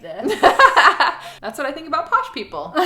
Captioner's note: laughing